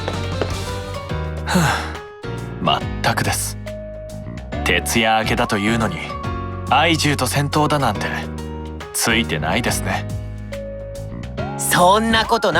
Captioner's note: sigh